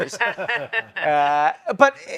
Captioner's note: others laughing